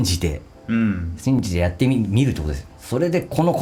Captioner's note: chanting